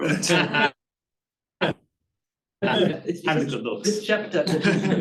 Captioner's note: audience chuckling